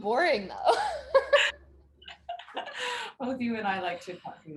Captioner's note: both chuckling